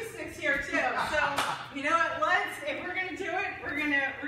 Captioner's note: laughing